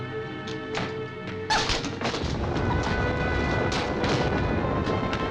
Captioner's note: Tara shrieks